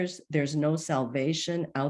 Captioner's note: none